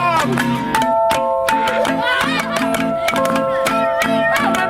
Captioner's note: tapping on plastic bottles; laughter